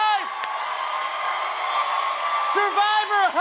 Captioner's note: cheers and applause